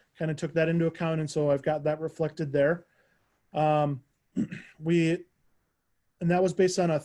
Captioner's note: clears throat